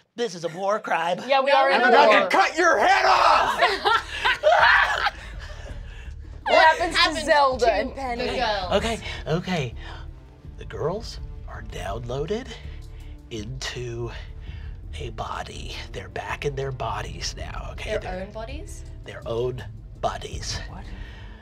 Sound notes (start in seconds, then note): 2.6 screams; 3.4 laughs